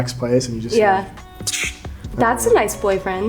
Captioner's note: imitates whooshing